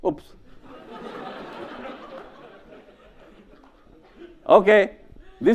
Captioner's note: audience laughs